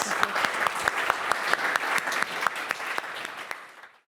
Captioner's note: applause